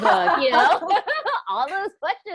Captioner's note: both laughing